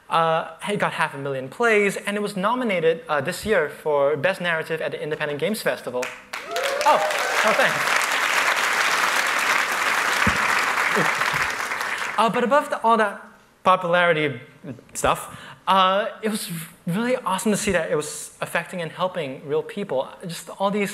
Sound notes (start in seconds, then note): 6.0 applause